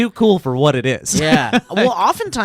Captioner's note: laughing